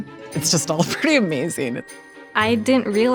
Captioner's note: laughing